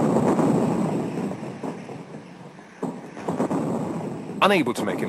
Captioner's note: bombs exploding